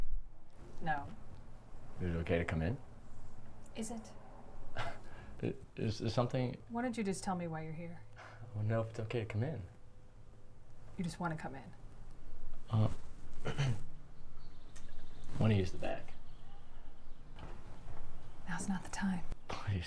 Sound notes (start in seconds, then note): 12.4 humming; 13.4 clearing throat